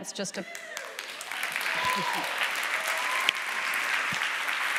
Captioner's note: audience applauding